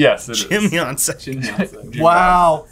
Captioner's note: laughing